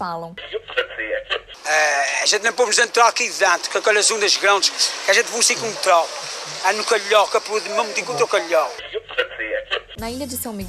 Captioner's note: Azorean speaking with accent